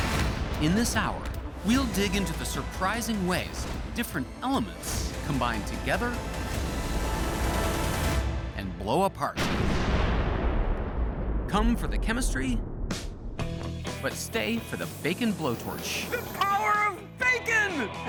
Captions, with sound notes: In this hour, we'll dig into the surprising ways different elements combine together and blow apart. (explosion echoes) Come for the chemistry, but stay for the bacon blowtorch. The power of bacon!